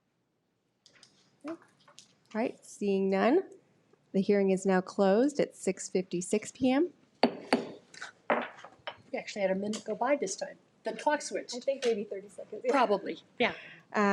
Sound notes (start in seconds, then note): 7.2 gavel pounds